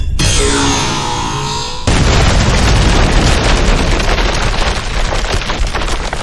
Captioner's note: lasers blasting; explosion booming